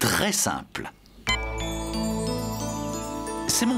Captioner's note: beep!